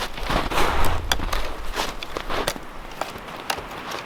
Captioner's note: snow crunching; twigs rattling